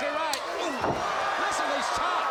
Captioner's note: crowd cheering